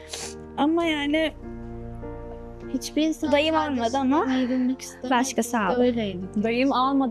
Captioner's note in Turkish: homurdanır